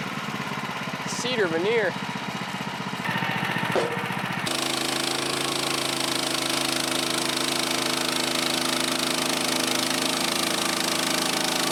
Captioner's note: motor running